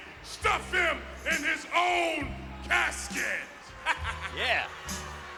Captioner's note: laugh